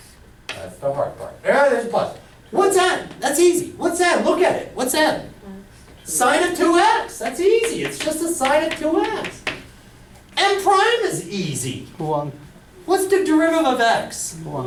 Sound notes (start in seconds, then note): 12.3 voiceover